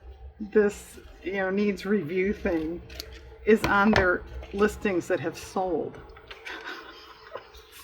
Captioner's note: laughs